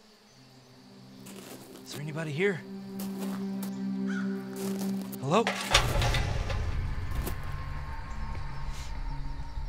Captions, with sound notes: Is anybody here? Hello. (can rumbles)